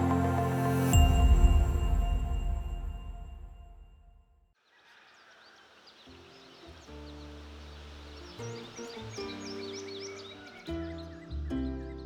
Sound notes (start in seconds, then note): 0.0 soft ethereal music; 4.6 birds chirp; 8.8 soft pleasant music